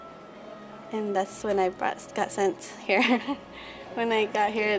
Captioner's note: laughs